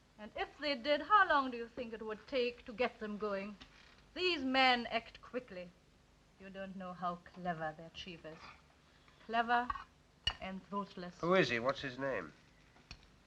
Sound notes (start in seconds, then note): none